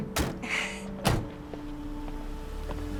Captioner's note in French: gloussement